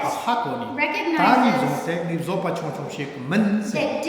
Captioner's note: speaking tibetan